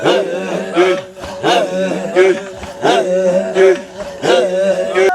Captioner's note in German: Lachen!